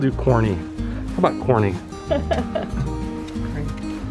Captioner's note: laughter